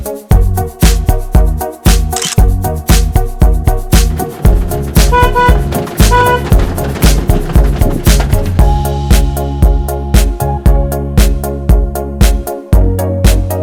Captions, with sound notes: (Photo click) Horn honking